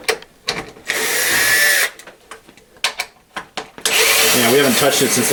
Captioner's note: whirring